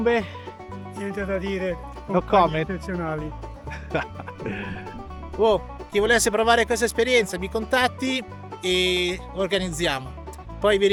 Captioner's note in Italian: risate